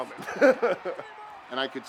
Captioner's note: Glenn laughs